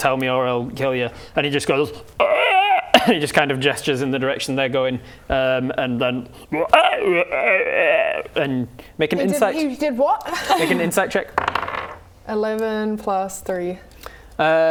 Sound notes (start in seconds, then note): 2.2 ribbet; 6.6 frog noises